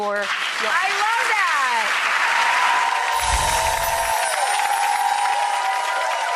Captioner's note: audience claps and cheers